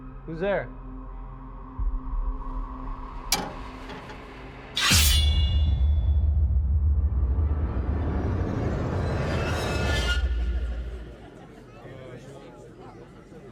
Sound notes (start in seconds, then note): 0.7 suspenseful music; 3.3 object taps; 4.8 sword swishes; 7.0 intense dramatic music; 11.2 people chattering